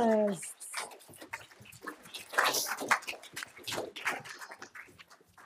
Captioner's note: audience clapping